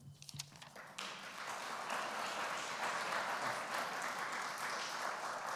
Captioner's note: applause